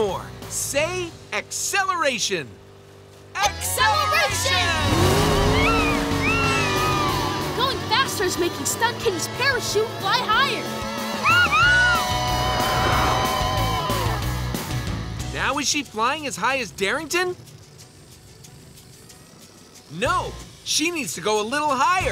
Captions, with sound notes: Say, "Acceleration". Acceleration! [meowing] Going faster's making Stunt Kitty's parachute fly higher. Yahoo! Now is she flying as high as Darington? No, she needs to go a little higher.